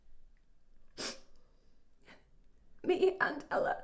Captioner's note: Marianne sniffles